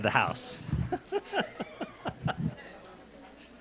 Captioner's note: laughs